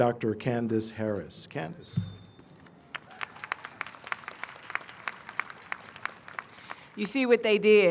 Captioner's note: applause